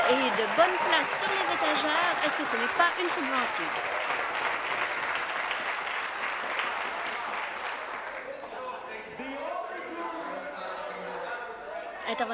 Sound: applause

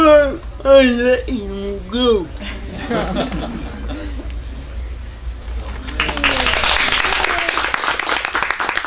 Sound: laughter & applause

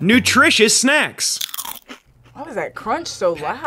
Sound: bug crunches

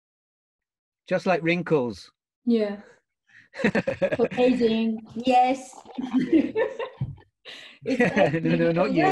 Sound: both laughing

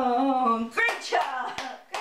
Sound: clapping

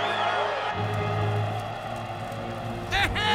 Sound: cameras clicking; cheering; laughing

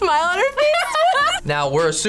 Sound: both laugh

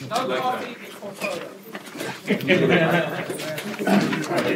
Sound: laughter

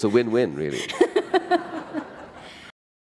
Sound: laughter

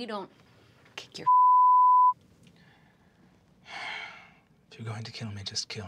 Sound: beeping

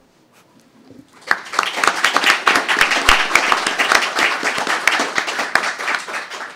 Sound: applause

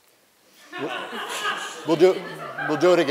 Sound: laughter

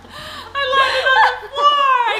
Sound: laughing

